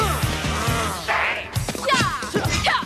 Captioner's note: kiaiing